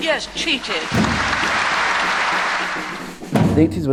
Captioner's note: applause